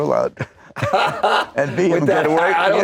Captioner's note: laughing